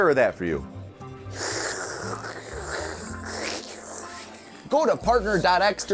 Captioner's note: slurping